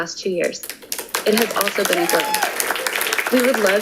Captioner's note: audience applauding